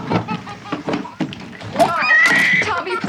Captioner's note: baby crying